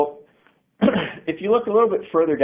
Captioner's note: coughs